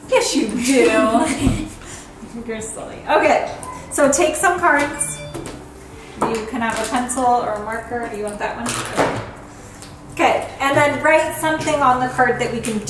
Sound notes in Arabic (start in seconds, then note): 0.6 يضحك